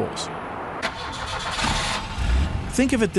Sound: engine turns over

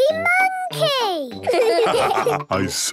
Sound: laughs; all laugh

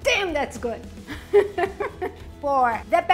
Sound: chuckles

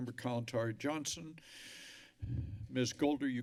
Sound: breathes deeply

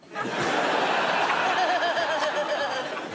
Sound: laughter

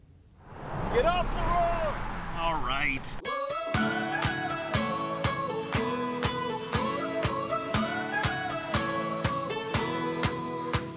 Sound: driver yells passing

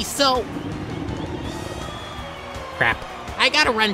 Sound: stomach rumbles

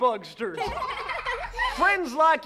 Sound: laughing

